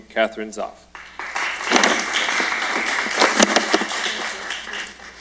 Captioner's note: applause